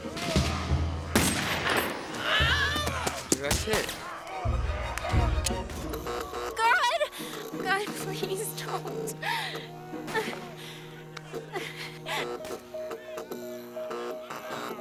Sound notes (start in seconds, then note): 0.4 groaning; 4.4 electricity Arcing; 9.5 crying